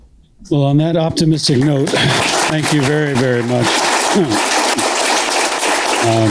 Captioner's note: applause